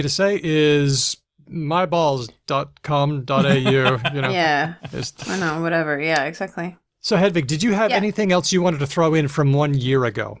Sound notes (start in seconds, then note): 3.4 laughs